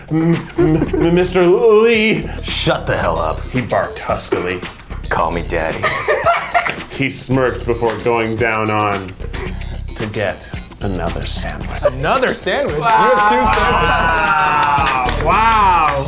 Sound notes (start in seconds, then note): 5.8 laughs; 12.7 everyone claps